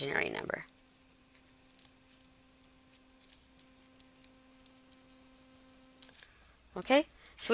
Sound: silence

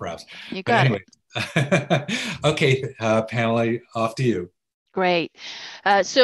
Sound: laughs

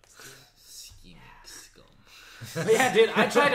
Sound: laughs

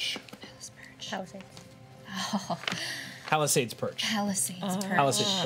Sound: chuckles

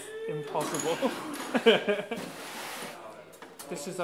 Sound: laughs

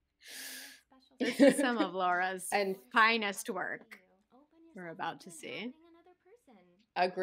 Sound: gasps

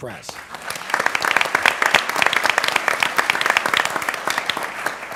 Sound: applause

